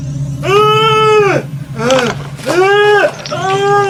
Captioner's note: monster yelling